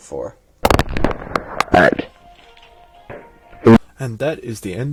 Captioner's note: distorted